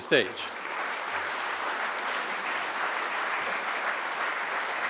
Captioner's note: audience applauds